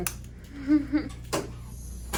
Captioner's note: laughs